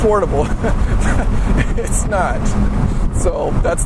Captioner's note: laughs